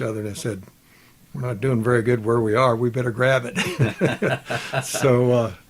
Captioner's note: both laughs